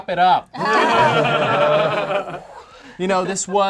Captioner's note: group laughs